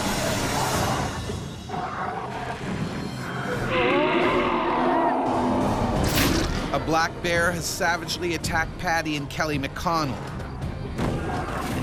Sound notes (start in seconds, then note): 5.2 yelling